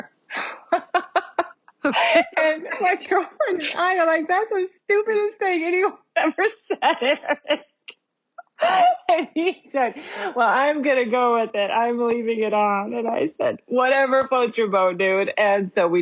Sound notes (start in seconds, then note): 2.5 laughs